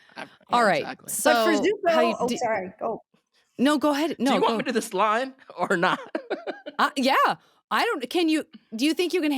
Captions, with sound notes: All right, so- For Zuko- Oh, sorry. Oh. No. Go ahead. No. Do you want me to this line or not? [laughing] Yeah. I don't- Can you- Do you think you can handle it?